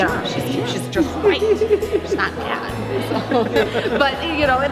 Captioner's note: laughing